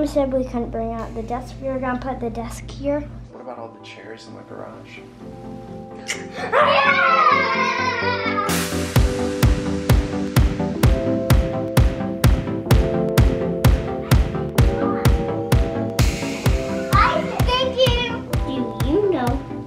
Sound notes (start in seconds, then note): 6.6 cheers; 9.3 upbeat music